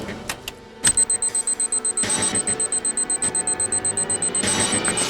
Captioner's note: transponder beeping